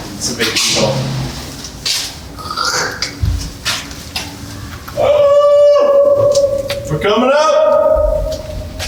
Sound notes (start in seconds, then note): 2.4 making a sound-effect; 4.6 yelling